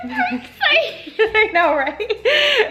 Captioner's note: laughs